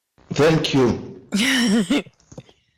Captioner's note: ocker laughing